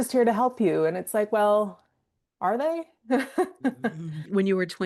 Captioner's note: laughing